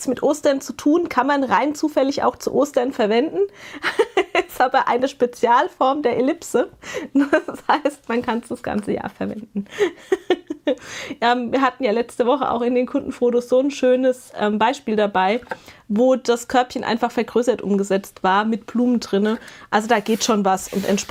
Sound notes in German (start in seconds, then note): 3.8 gelächter; 9.5 gelächter